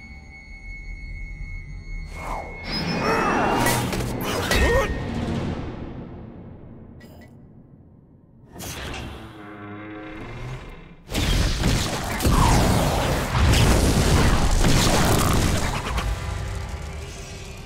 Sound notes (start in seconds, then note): 2.7 grunting; 8.7 creaking